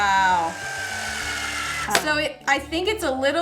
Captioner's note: machine operating